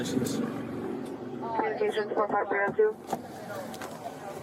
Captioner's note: radio chatter